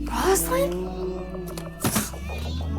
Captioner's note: cat meows; window thuds